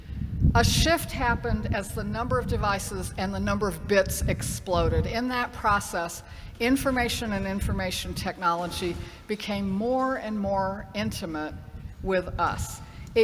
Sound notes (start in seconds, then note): none